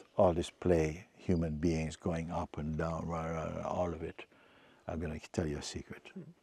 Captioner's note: imitates grumbling